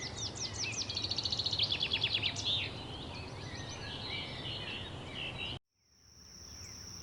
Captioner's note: birds chirping